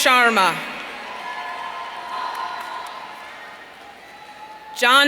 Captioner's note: audience cheering